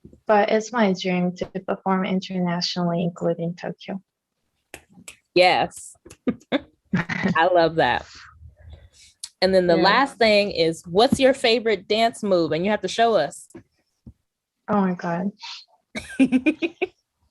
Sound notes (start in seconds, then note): 5.3 snaps; 15.9 laughter